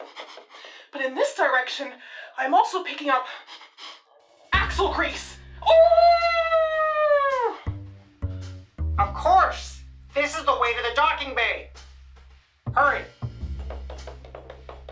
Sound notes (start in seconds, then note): 5.7 howl